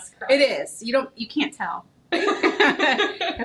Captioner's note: both laughing